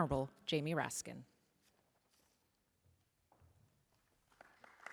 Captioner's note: applause